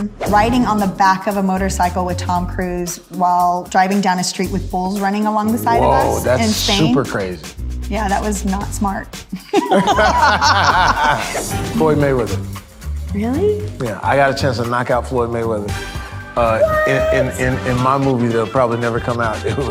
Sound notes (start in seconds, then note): 0.2 wind whipping; 9.3 both laughing; 11.5 wind whipping